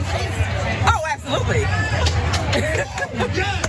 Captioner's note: laugh